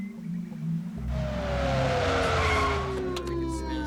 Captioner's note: police siren blaring